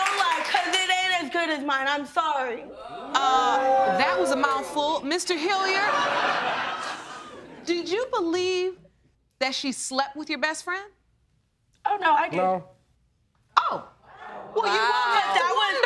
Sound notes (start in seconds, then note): 5.6 laughter